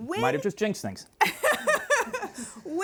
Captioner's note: laughing